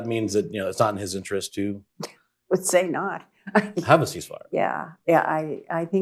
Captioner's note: laughs